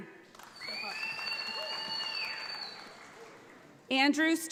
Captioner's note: audience applauds